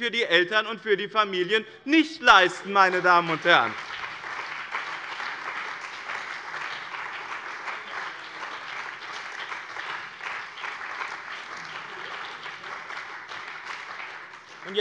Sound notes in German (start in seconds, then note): 2.2 Beifall bei dem BÜNDNIS 90/DIE GRÜNEN und der CDU